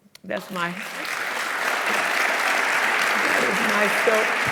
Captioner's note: audience applauding